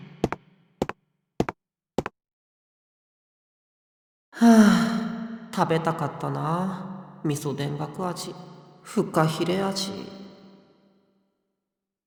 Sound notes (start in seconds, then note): 4.4 sigh